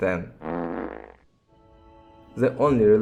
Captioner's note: fart sound